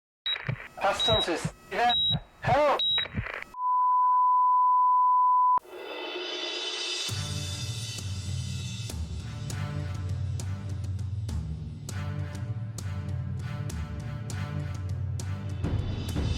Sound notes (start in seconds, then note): 4.1 beeping; 6.9 dramatic instrumental